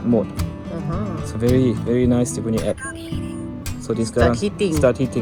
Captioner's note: app notification